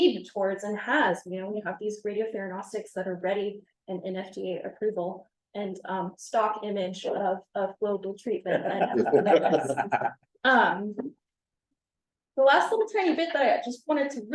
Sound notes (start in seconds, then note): 8.5 laughter